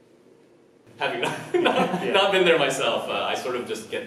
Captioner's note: laughs